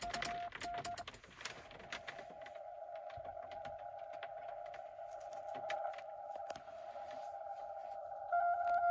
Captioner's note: rain noises